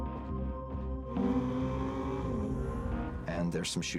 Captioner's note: engine revving